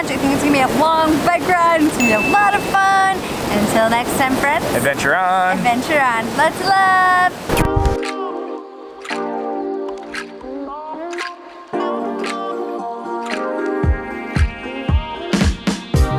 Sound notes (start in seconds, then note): 2.0 notification bell dings; 7.6 relaxing rhythmic music